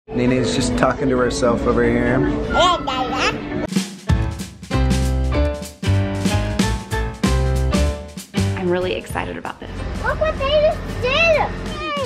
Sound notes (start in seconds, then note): 2.5 baby talking; 4.2 light music